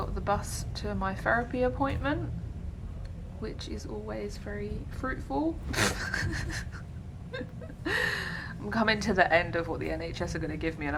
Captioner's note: laughs